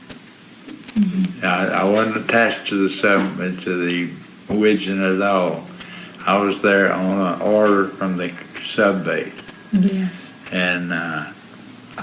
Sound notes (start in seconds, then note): 3.8 murmurs